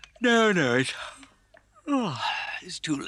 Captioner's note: yawns